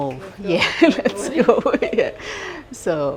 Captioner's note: laughing